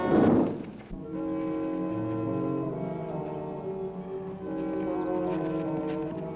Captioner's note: gentle music; birds chirping